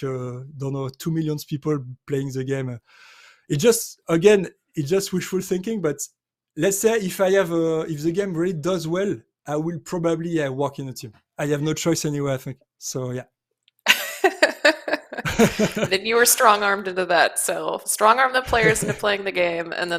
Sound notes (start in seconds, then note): 13.9 laughs